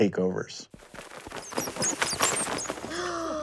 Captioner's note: squeaking